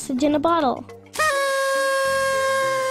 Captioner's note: party horn